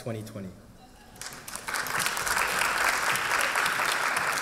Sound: applause

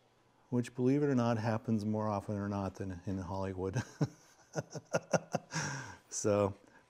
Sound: laughing

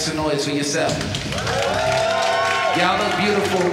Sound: audience cheering

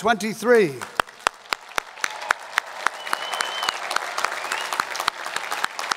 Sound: audience cheers and applauds

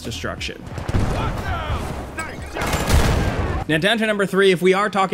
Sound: guns firing; explosions rumbling

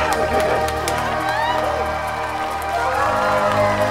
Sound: cheering

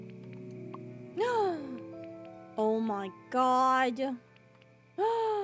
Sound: gasps; gasps Again

